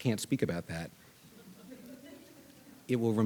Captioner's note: audience laughing